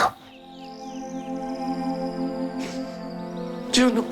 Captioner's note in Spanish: Sollozos